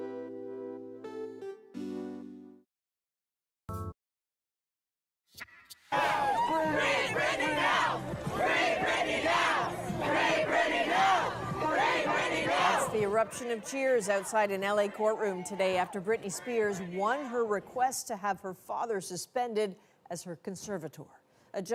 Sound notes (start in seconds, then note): 13.2 chanting